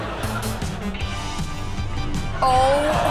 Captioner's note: audience laughs; light music